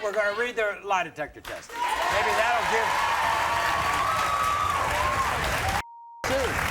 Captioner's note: audience cheering